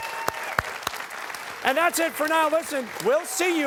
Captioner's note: cheers and applause